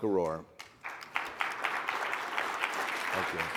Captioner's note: audience applauding